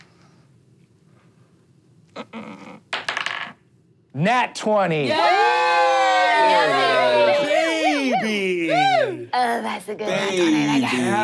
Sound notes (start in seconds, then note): 2.9 dice rolling; 5.0 cheering